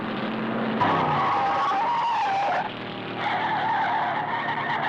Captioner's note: tires screeching